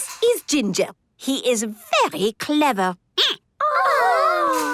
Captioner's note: squeaking